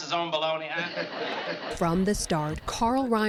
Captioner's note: laughter